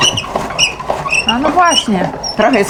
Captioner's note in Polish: skrzypienie